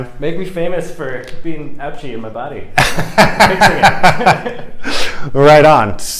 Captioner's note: laughter